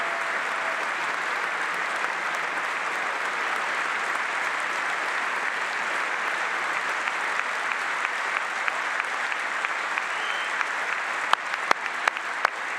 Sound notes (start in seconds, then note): 0.0 applause